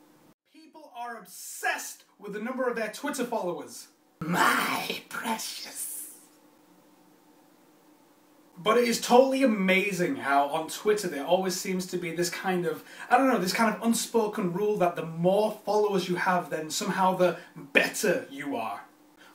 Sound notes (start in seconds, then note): 4.1 In Gollum voice